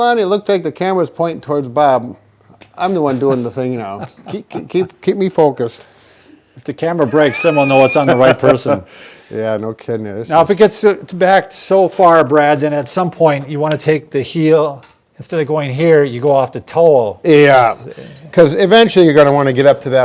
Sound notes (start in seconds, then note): 3.8 laughs; 7.0 laughs